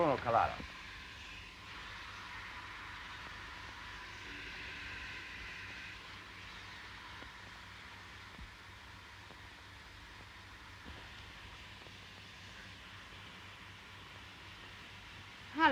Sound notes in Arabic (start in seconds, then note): 0.0 هسهسة البخار